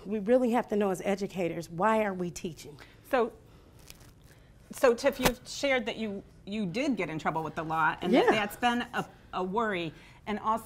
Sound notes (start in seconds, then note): none